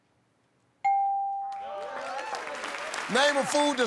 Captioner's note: ding